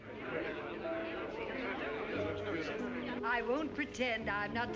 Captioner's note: chattering